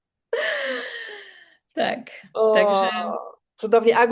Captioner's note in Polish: wciągnięcie powietrza